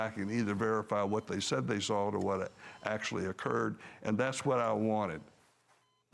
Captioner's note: none